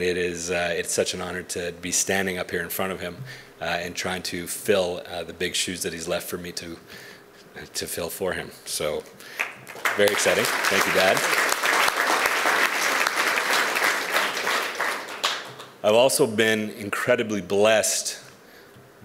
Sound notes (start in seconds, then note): 9.4 audience applauds